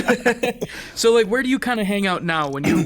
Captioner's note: laughs